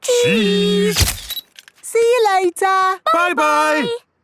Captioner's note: camera click